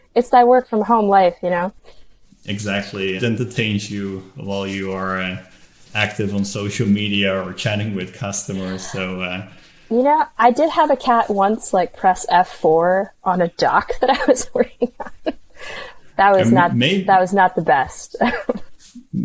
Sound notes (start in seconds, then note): 13.5 laughs